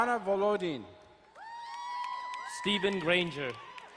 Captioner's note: crowd cheering and applauding